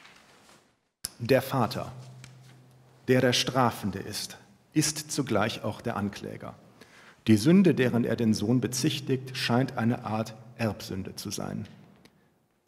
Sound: speaking german

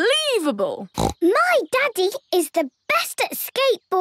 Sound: snorts

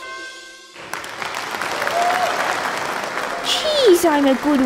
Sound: applause

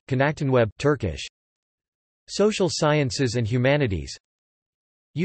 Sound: Turkish

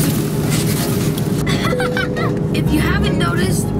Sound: laughs

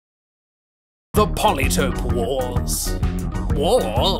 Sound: voice wobbles

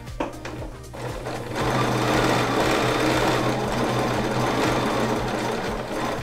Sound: machine whirring

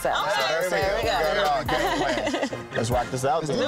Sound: all agreeing

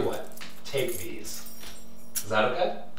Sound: keys jingling

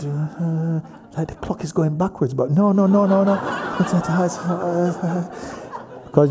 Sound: laughter

